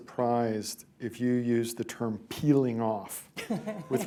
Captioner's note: laughter